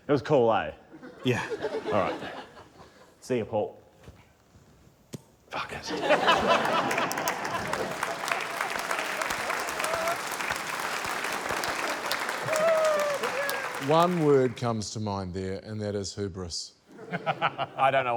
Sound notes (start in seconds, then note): 5.8 laughter; 8.8 applause; 17.0 laughs